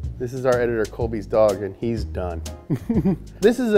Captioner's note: laughs